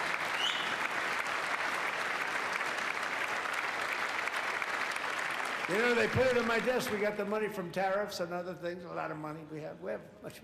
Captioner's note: applause